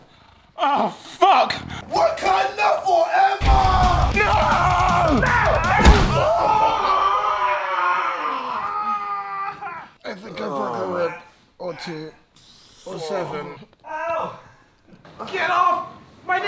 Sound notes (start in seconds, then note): 5.7 very loud smack; 6.9 loud elongated scream